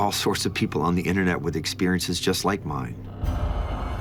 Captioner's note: none